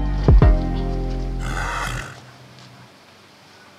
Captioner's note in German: Schnauben